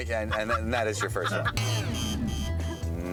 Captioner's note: buzzing